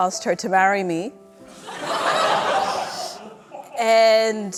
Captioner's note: laughter